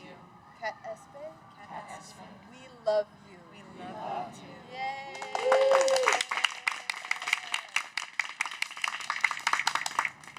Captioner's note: cheers